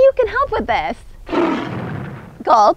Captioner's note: roars enthusiastically